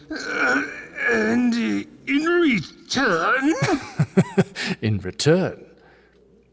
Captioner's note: strained; laughing